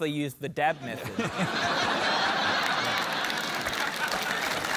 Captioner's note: laughter